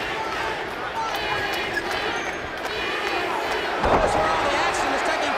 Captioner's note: crowd chatter